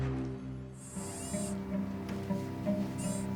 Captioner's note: camera whirs